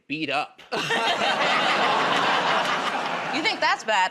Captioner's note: laughter